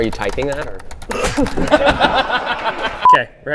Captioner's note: laughs